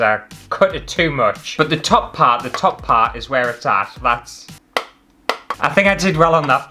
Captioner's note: tap